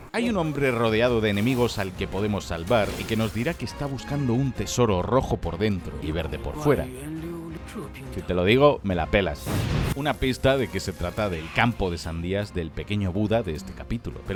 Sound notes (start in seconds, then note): 8.1 naughty rhyme in spanish